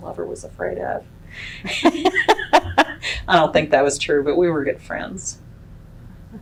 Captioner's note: laughs